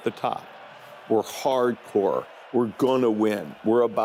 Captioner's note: cheers